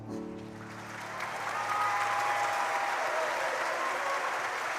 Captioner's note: crowd applauding